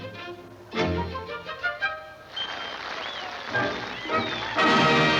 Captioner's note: audience applauding